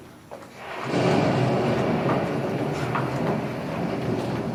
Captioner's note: thunder